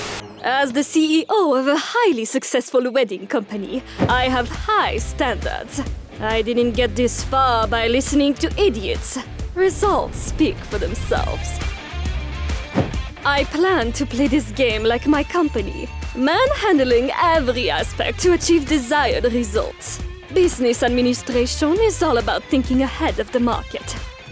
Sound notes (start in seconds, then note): none